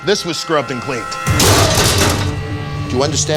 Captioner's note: clatter